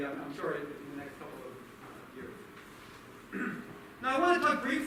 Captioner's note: clears throat